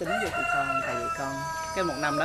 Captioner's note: rooster crowing